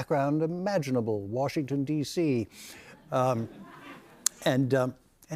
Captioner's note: light laughter